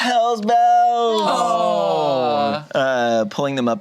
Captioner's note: group groans; gasps